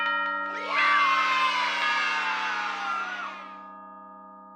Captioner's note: children cheer